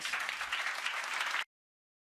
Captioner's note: audience applause